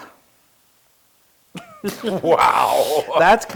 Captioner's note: laugh